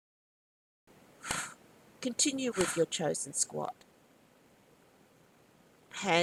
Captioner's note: sounds of exhalations